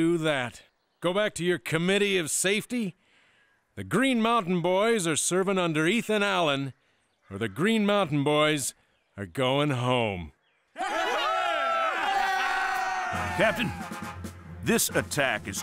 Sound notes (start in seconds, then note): 10.7 cheering